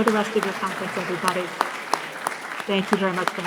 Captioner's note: applause continues